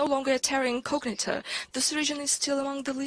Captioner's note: speaks with a heavy accent